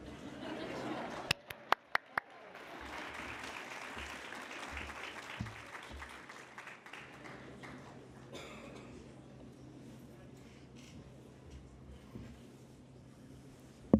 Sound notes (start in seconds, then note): 1.1 applause